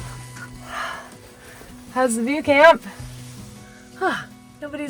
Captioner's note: sighs